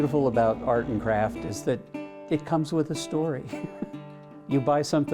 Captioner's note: laughing